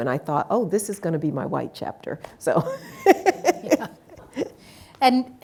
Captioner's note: laughs